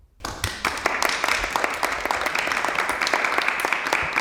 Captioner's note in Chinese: 鼓掌